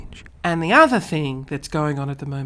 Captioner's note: takes a deep breath; talking normally